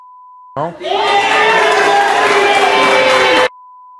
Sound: applause

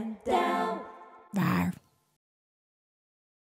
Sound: creature roars softly

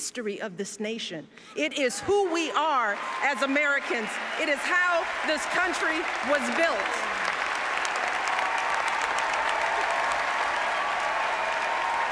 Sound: applause

